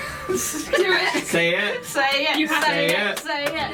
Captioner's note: breaks into laughter; chanting